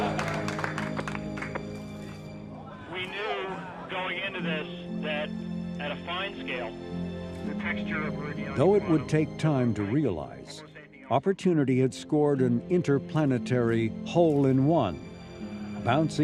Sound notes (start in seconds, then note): 4.2 crowd laughing